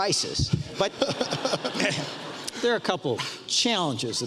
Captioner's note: audience laughs